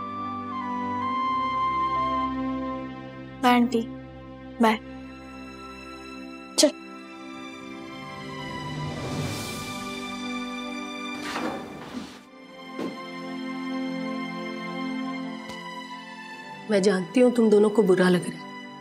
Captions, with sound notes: [sentimental music playing] Bye, Aunt. Bye. Let's go. [sad music playing] [elevator door opening] I know you both are feeling bad.